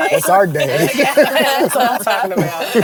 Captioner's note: all laugh